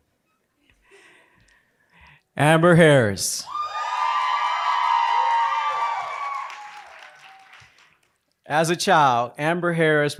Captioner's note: applause